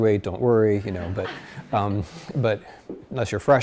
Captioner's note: class laughs